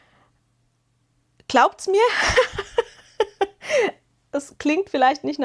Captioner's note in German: gelächter